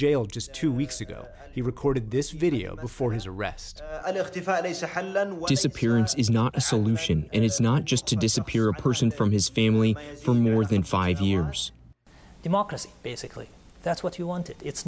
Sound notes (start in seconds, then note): 5.1 through translator